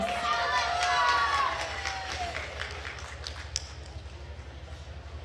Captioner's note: attendees cheering and applauding